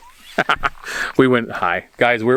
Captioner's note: laughing